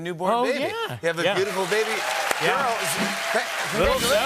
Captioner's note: cheers and applause